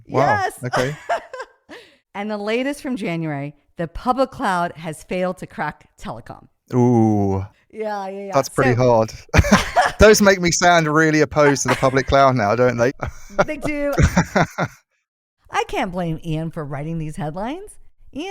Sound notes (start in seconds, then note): 8.5 laughs